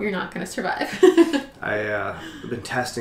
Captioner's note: laughter